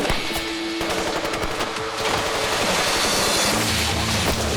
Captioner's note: gunshots